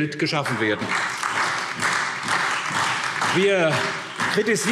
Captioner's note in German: Beifall SPD und Freie Demokraten